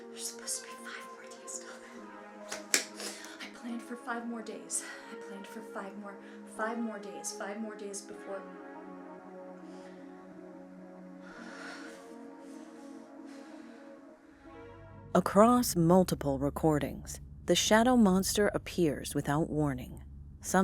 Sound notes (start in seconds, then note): 11.2 sighs; 12.2 eerie music